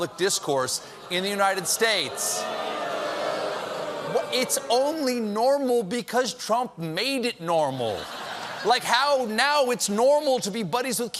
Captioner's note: booing